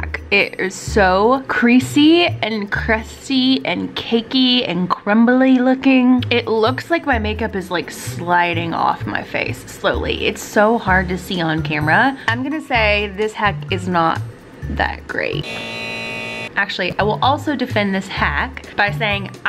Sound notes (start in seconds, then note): 15.4 high voltage buzzing